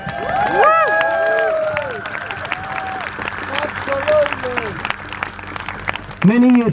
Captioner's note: crowd Cheers